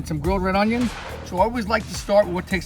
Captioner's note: air whooshing